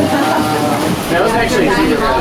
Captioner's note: laughing